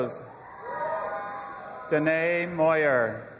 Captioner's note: audience applauding and cheering